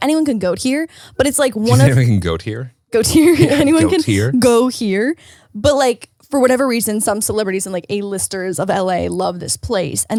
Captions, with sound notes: Anyone can go here but it's like. - Did you say we can goat here? - Goat here (chuckles). Anyone can go here. But, for whatever reason, some celebrities and A-listers of L.A. love this place